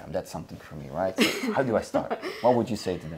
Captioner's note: laughing